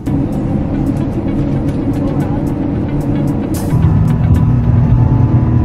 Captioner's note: plane engine whirring